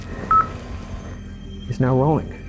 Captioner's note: EVP beeps